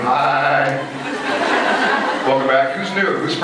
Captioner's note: scattered laughs